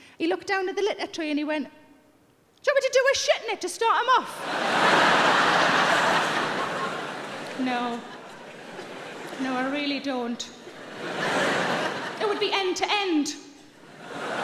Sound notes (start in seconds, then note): 4.4 audience laughing